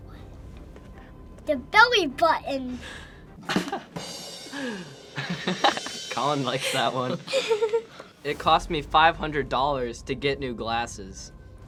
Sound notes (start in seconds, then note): 3.5 laughs